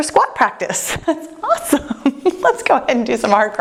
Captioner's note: laughs